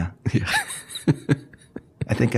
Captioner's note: laughing